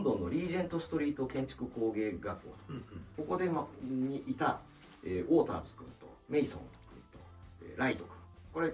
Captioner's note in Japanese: 咳払い